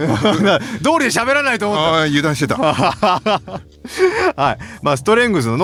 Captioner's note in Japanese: 笑い